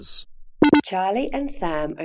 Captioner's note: computerised beep sound